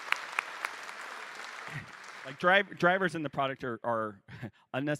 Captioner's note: applause